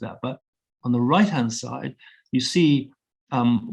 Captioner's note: none